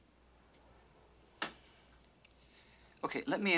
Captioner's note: sighs